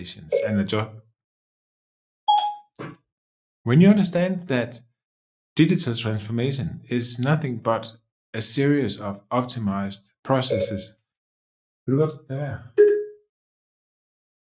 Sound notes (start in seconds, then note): 0.1 beep; 10.4 beep